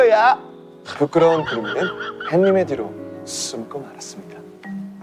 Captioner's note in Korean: 음소거 웃음